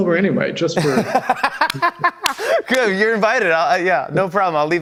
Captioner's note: both laugh